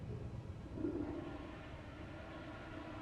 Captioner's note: toilet flushing